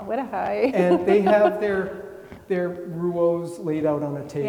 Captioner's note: laughing